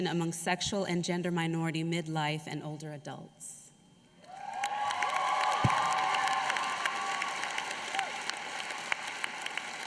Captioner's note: applause